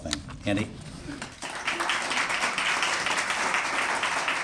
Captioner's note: applause